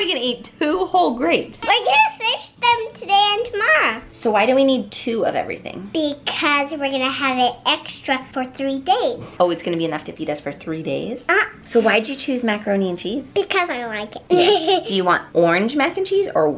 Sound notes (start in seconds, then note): 14.2 laughs